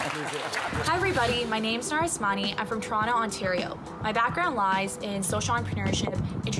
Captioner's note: applause